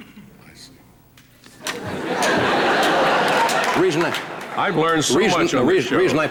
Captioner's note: audience laughter